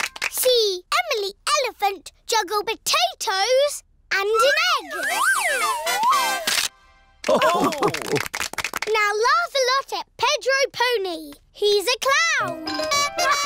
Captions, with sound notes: See Emily Elephant juggle potatoes and an egg! (ALL LAUGH) Now laugh a lot at Pedro Pony! He's a clown!